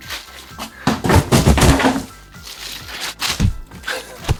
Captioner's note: box dropping